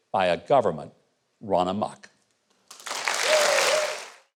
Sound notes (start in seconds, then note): 2.6 applause